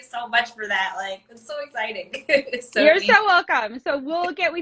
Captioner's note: laughs